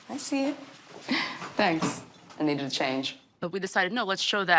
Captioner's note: chuckles